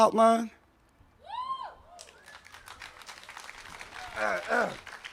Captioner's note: audience claps and applauds